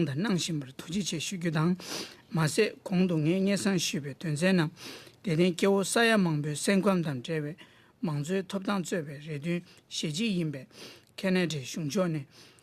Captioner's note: speaking Alternate Language